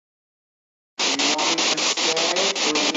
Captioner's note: static echoing